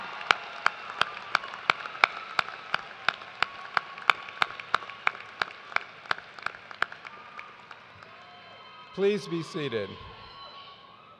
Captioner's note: cheers and applause